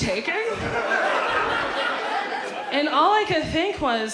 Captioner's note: audience laughs